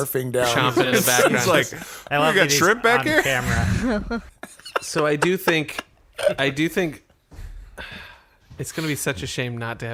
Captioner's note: sighs